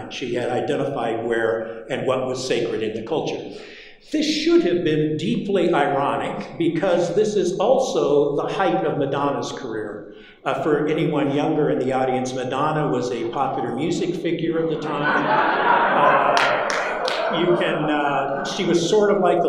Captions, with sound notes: She had identified where and what was sacred in the culture. This should have been deeply ironic because this is also the height of Madonna's career. For anyone younger in the audience, Madonna was a popular music figure of the time. [audience laughing] You can, she was sort of like